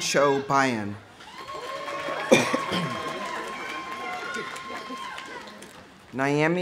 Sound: audience cheering; audience applauding

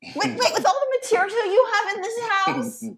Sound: laughs

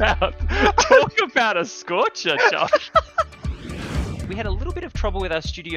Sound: both laughing; laughter continues

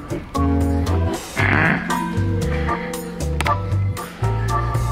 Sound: upbeat music; grunts

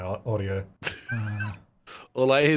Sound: laughing

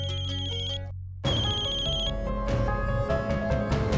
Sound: phone ringing

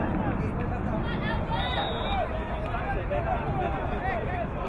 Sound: whistle blowing

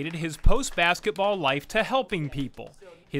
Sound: applause

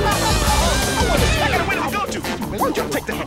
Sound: sobbing

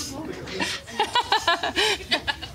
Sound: laughs

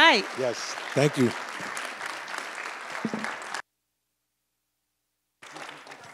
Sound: audience applauds

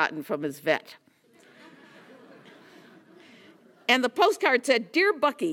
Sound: laugh

